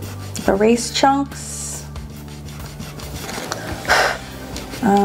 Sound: eraser rubbing; blows

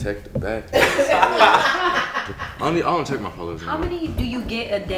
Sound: laughter

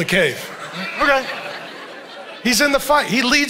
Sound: congregation laughing

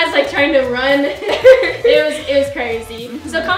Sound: giggles

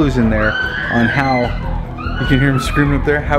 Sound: kids screaming

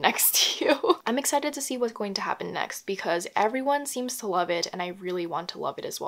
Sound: laughs

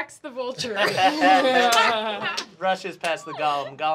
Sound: laughing

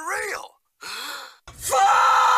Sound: inhales

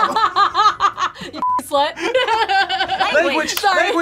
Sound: laughs

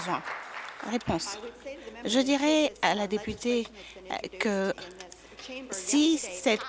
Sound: applause

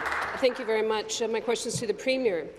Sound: applause

